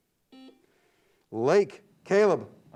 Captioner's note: buzzer beeps